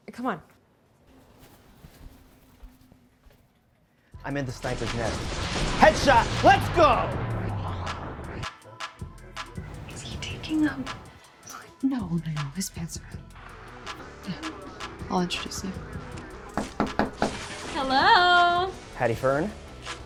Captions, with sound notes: Come on. - I'm in the sniper's nest. Head shot, let's go. (slow music) - Is he taking a (whispers)? - No, no, no, no, his pants are up. Yeah, I'll introduce you, (knocks) hello. - Howdy, Fern.